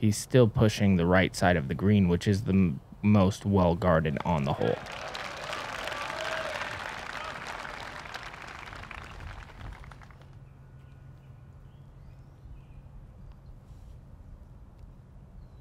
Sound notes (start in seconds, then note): 4.2 cheering; 9.3 pause